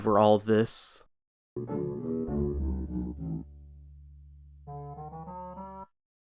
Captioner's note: gameplay sounds